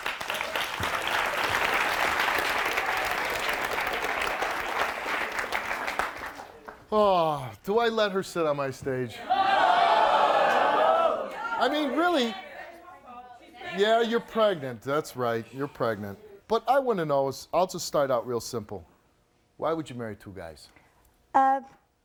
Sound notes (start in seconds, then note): 0.0 audience clapping; 9.2 audience yelling